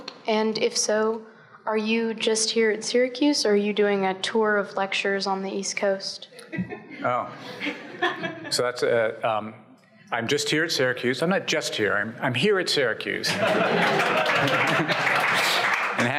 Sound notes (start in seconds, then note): 7.4 audience chuckles; 13.2 audience laughs and applauds